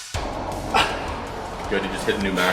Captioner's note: grunting